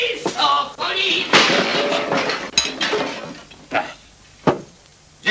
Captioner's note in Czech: rachot padajícího nádobí